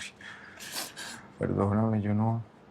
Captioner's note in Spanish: Sollozos